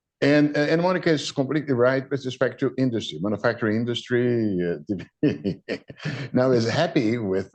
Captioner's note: laughs